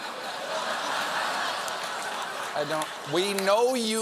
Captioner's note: laughter